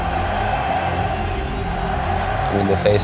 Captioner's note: crowd chanting